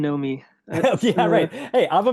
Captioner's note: laughs